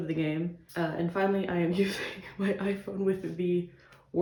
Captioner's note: laughs